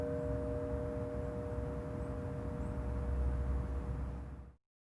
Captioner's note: Wren Bell ringing